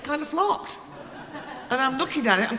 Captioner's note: audience laughing